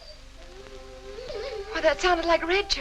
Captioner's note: dog whimpering